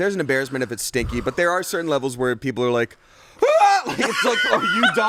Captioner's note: screams